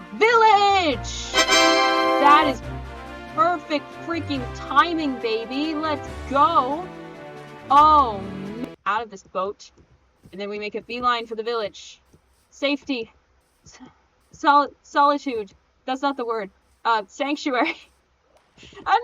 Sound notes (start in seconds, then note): 1.3 TADAAAA sound